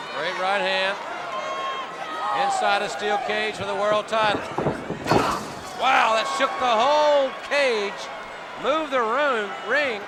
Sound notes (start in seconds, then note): 5.0 Sting thudding into turnbuckle